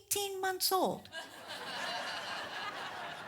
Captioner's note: audience laughs